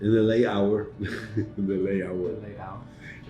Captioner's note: chuckles